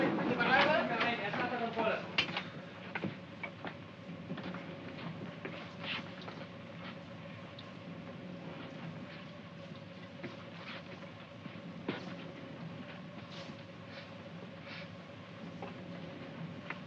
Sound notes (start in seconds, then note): 14.6 sniffing